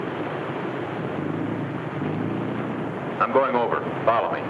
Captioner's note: boat hums